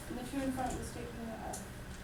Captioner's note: voiceover